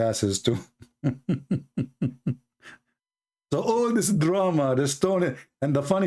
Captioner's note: Ketawa